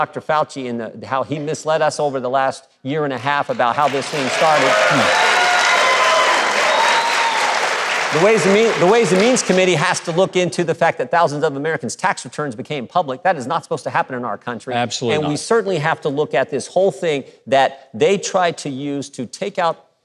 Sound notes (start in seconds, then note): 3.5 audience cheering